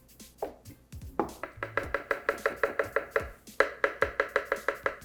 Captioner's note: upbeat music; spoon tapping